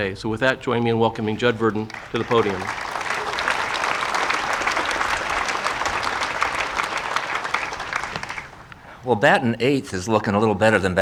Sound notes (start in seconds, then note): 1.7 audience applauding